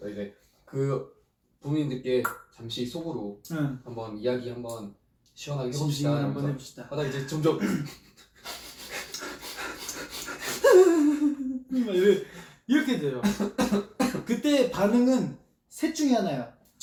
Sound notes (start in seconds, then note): 7.5 sob